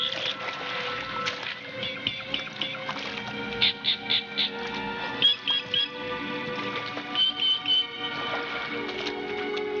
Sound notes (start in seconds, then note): 3.6 chirping